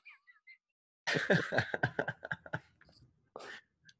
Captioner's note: chuckling